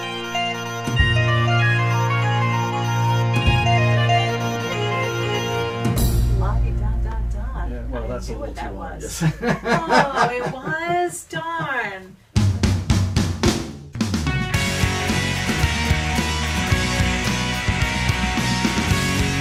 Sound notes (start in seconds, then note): 6.7 pretends to be speaking naturally; 9.0 laughs